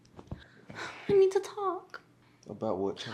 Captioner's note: sighs